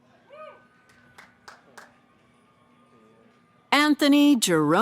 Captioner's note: cheering